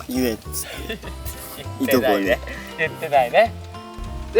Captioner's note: laughs